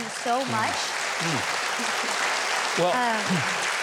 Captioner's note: audience applauding